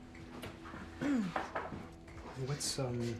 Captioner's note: Claire's throat clearing